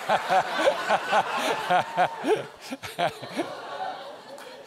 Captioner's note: audience laughs